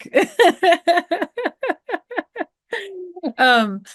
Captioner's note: laughing